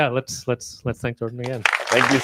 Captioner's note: applause